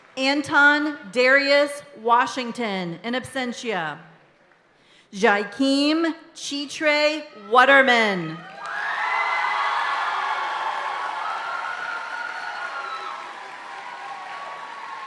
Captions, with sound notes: Anton Darius Washington, in absentia. Jakim Chetray Waterman. (audience cheering and applauding continues)